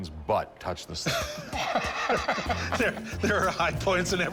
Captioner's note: laughter